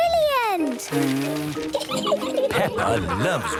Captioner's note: blows